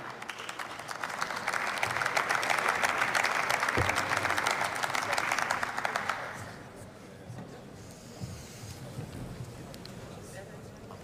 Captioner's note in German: Beifall